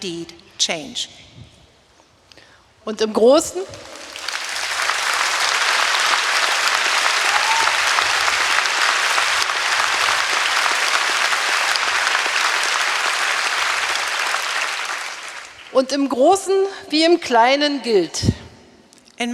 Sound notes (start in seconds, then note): 3.6 applause; 14.3 speaking in German